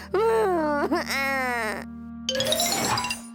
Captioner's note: crying